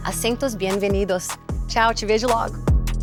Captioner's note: speaking Portuguese